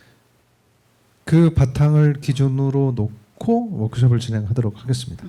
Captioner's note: speaking korean